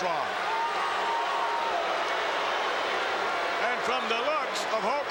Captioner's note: crowd boos